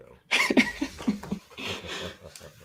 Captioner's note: laughs